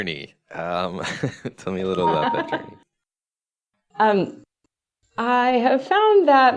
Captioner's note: laughs